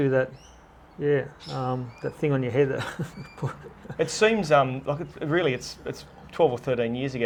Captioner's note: laughs